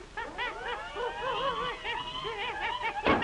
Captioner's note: panicked wailing